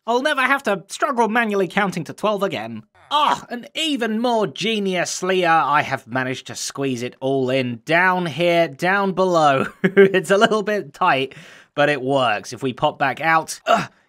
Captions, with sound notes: I'll never have to struggle manually counting to 12 again. Oh! And even more geniuslier I have managed to squeeze it all in down here down below [Chuckles]. It's a little bit tight but it works. If we pop back out - Uh!